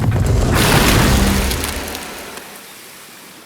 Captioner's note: water squirt